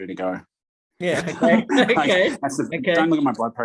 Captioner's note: laughs